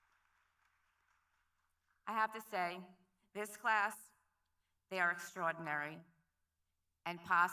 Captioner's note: applause